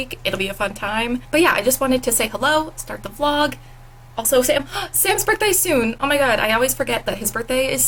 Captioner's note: gasp